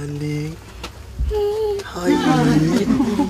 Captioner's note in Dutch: kind giechelt